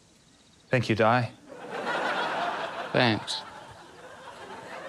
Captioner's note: laughter